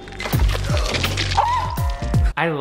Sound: water splashing; gasping

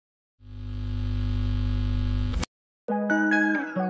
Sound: electronic humming; pensive somber music

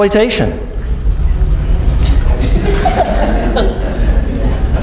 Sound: laughing

